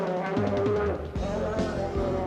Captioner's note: growling